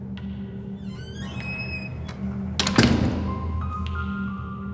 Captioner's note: door squeaks and thuds